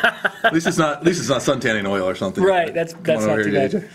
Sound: laughs

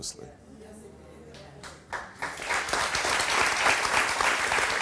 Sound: audience claps

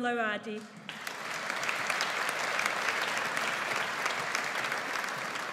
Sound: audience applauds

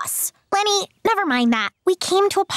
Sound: none

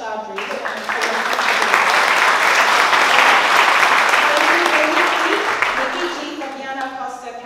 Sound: applause

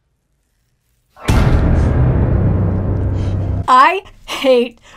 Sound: hand thuds; intense music

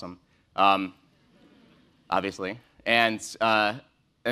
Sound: laugh

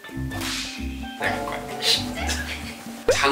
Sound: squabble

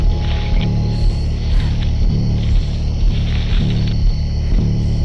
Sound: Stephanie panting, stomping through leaves

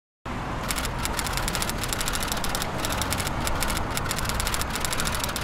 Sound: typewriter clicking

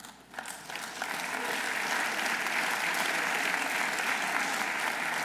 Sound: audience applauding

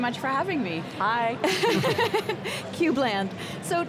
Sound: laughter

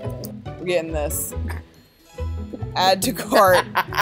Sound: laughs

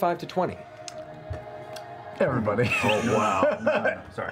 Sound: laughing

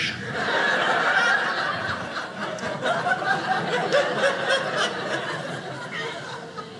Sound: audience laughing

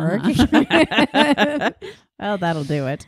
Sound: laughing

